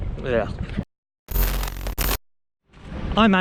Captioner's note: static